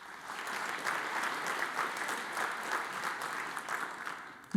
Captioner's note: audience applauds